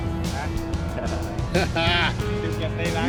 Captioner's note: man laughing